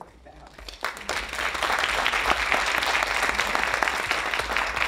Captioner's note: audience applauding